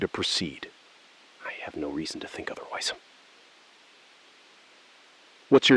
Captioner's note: SILENCE — 4 sec